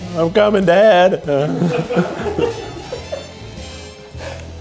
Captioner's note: offscreen laughs